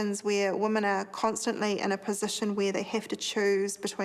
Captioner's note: none